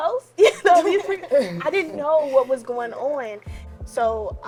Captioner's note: laughs